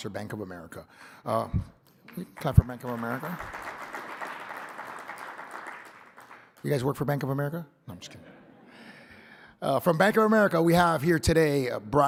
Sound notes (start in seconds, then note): 2.1 audience applauding